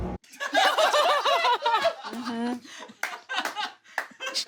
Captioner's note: group laughing